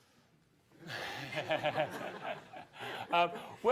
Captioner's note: audience chuckles